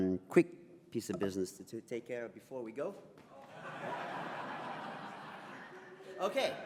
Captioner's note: audience laughs